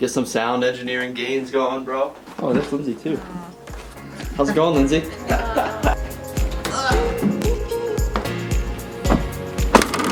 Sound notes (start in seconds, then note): 3.9 laughs; 6.3 upbeat music